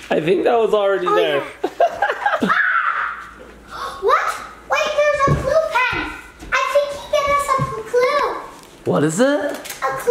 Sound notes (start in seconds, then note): 1.6 laughs; 2.6 gasps